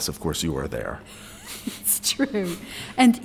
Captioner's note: snickering